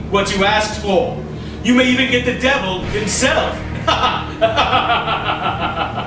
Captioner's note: laughing